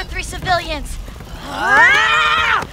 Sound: both scream

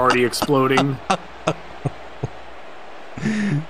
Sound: laughing

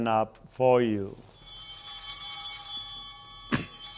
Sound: bell ringing

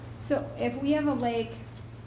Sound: none

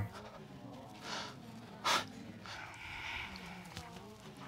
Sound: baker sniffling

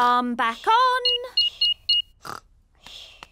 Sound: beeping

